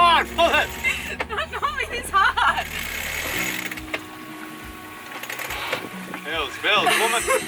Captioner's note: laughs